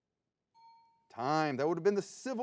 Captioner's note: bell dings